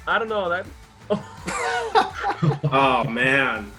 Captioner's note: all laugh